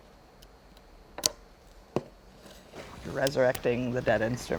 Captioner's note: string snaps